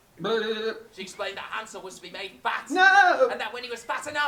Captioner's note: scream